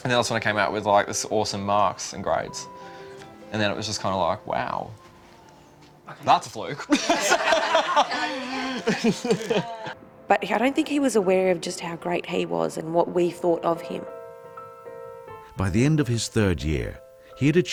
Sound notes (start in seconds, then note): 6.8 laughing; 15.8 voiceover